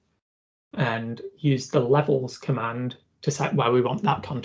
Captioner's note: argument